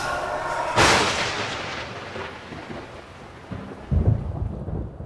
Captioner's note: thunder cracking